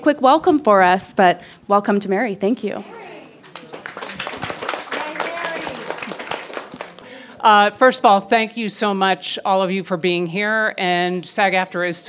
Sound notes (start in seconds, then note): 3.4 people applauding